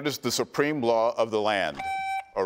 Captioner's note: buzzer beeps